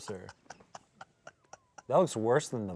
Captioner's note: laughs